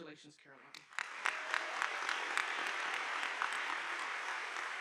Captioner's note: audience applauding